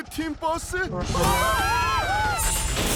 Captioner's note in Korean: 사람들 비명